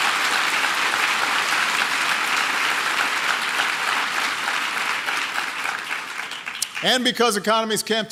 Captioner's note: applause